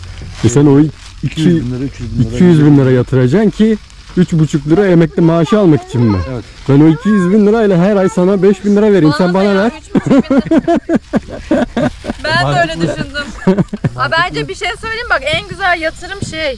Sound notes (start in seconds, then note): 9.7 laugh